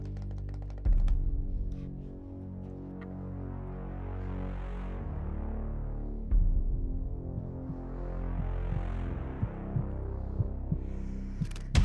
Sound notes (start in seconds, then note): 0.2 suspenseful music; 6.3 heart beating